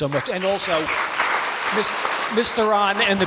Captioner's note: applause